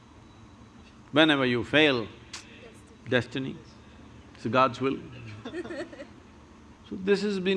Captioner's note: few laugh